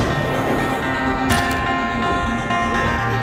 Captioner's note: thunder rumbles; lightning crackles; fast-tempo, restless notes pick up speed; camera shutter; fast-tempo, restless notes pick up speed